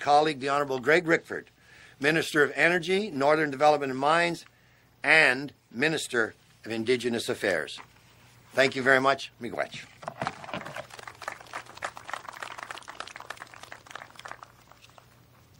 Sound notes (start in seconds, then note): 10.5 applause